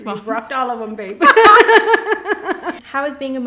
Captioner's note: laughing